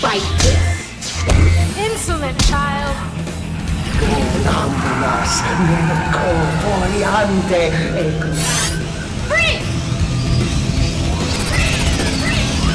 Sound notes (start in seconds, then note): 4.1 speaking foreign language